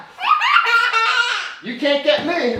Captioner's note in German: lacht